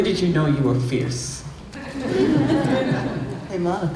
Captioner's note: laughter